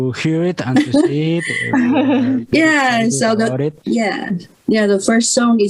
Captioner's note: risas